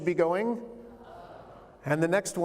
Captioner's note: crowd